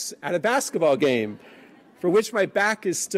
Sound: laughing

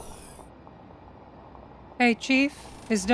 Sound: door opening

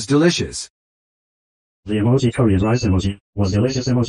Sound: voiceover speaking

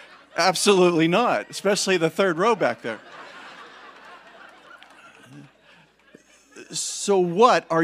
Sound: congregation laughing; congregation laughing

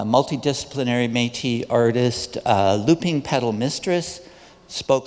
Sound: none

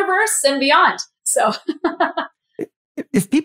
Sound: laugh

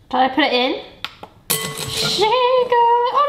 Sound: sticks banging bowl

